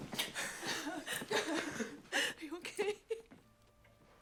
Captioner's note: Jules crying